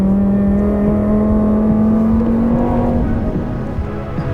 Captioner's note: engine buzzing